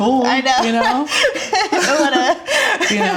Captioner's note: laughs